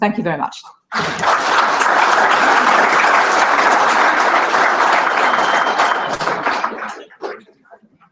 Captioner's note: applause